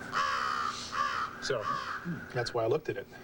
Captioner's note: crow cawing